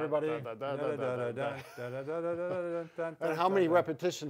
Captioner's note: both humming chicken song